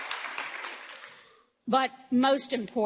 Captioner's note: applause